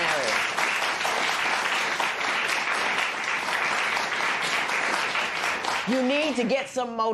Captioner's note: applause